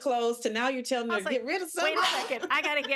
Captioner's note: laughing